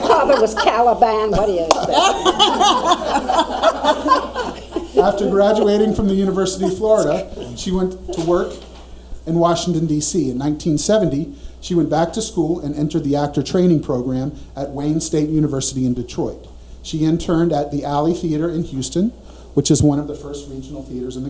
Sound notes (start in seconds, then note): 0.0 audience laughs; 2.4 all laughing